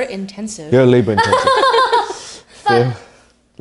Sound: laughter

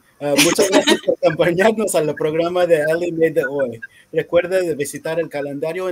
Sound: laughs; speaking in foreign language

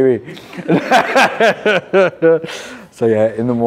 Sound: laughs

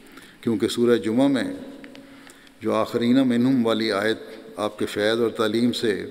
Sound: Arabic

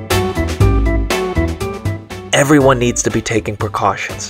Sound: none

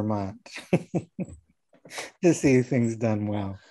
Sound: laughing

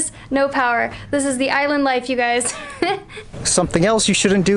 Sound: laughs

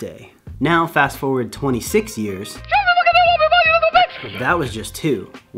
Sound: liu kang bicycle kick voice clip

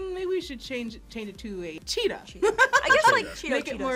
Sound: laughs

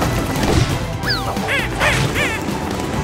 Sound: chattering

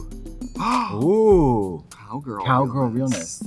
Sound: Trixie gasps

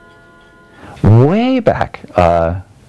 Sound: bells ringing

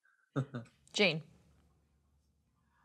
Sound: laughs

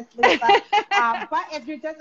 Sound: laughing

